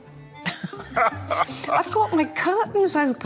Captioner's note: both laughing